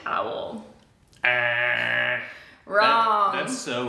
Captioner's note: mimics buzzer blaring